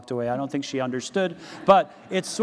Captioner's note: audience laughs